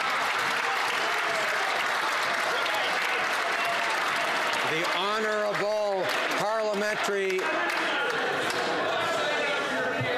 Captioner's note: some Applause